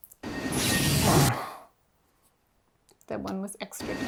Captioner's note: electric zapping; grunting